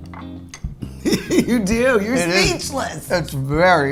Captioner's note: laughs